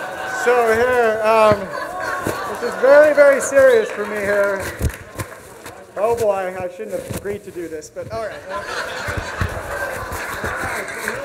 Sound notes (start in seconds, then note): 8.2 audience laughs